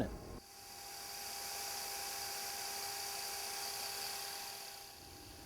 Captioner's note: saw blade spinning